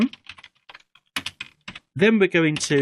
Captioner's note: keyboard typing